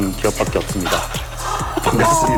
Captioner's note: laugh